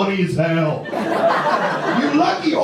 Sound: audience laughs

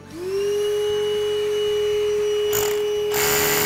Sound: drilling

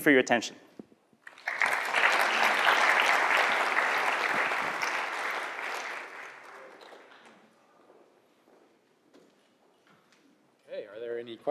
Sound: applause

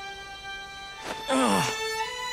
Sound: groaning

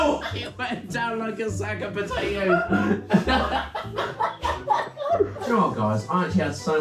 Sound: laughing

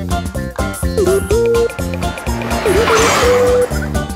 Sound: car engine revving

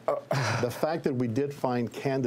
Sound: gasps

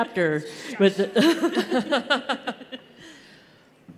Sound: laughter

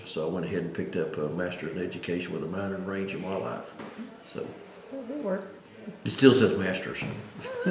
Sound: laughs

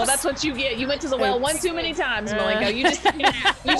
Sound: laugh

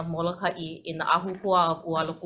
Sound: speaking in foreign language

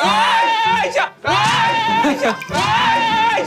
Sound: ahhh

